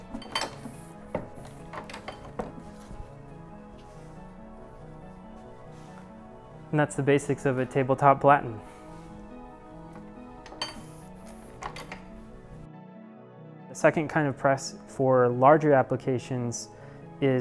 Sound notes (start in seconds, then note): 0.1 ink press clanks; 0.7 rhythmic instrumental music; 10.4 ink press clanks; 11.1 rhythmic instrumental music